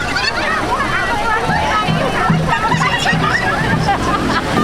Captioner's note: giggles